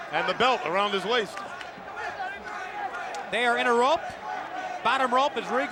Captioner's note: applause